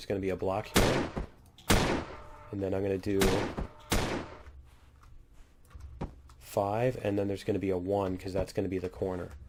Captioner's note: turret firing